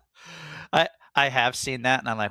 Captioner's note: laughs